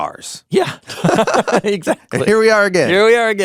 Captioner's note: chuckles